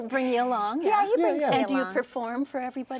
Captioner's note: laughing